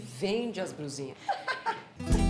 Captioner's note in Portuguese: risos; música inspiradora